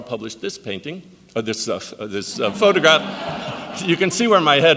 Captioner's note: audience laughs